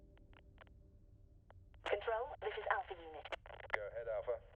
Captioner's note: radio